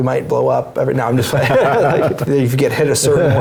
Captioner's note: laugh